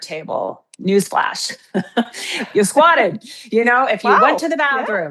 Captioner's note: chuckles